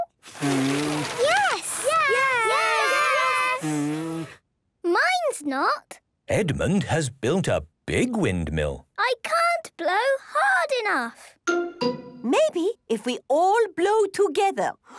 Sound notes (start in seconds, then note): 0.2 blowing, fluttering; 3.4 blows